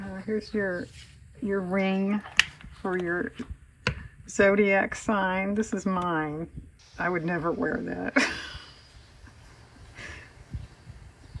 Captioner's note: laughs